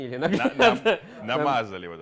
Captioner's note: laughter